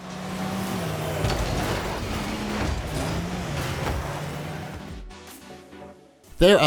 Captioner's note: Rocket League cars revving and crashing